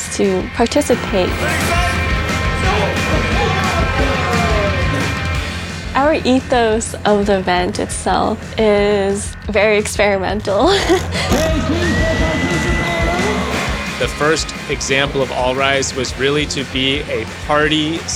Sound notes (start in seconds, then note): 10.6 laughs; 11.3 faintly speaks